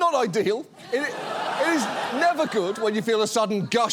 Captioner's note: audience laughs